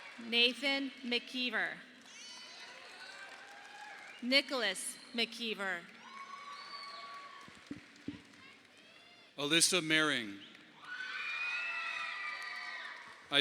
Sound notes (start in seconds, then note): 6.6 audience applauding; 10.7 audience applauding